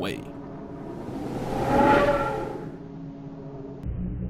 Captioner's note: woooosh